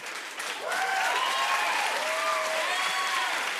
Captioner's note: cheers and applause